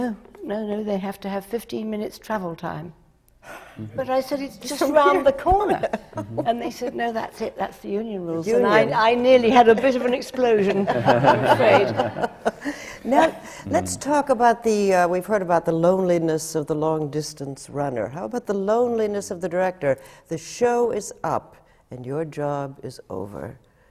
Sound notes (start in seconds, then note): 3.7 laughs; 12.5 laughter